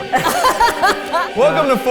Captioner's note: everyone laughs